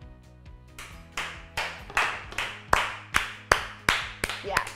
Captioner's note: clapping